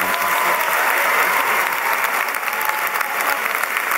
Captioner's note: applause